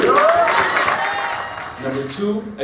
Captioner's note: clapping